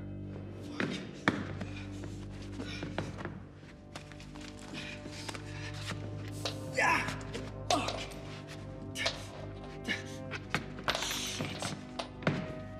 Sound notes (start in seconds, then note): 1.3 panting; 6.7 yells